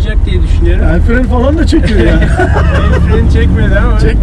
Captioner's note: laughings